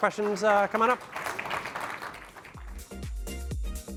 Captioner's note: applause